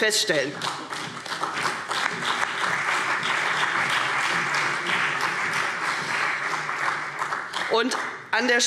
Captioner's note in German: Beifall CDU und BÜNDNIS 90/DIE GRÜNEN